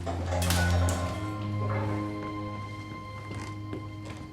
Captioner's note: metal clattering